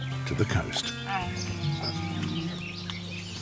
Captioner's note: bear moans